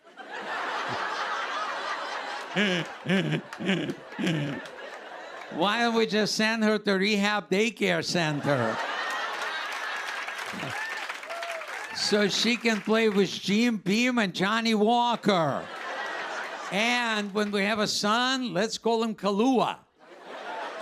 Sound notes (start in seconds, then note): 0.0 laughter; 8.2 laughter